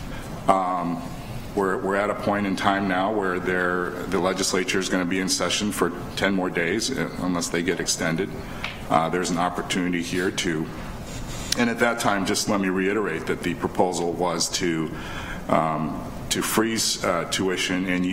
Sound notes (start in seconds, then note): none